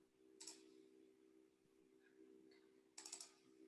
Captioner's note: mouse clicks